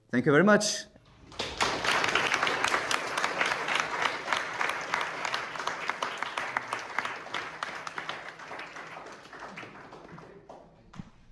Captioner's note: audience applauding